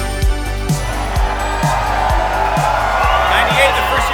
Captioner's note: crows cheers